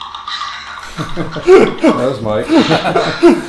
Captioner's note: hosts laugh